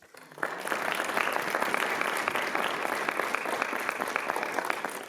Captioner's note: attendees applauding